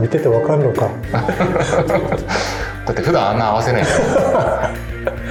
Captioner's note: laughs